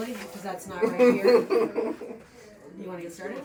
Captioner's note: player laughing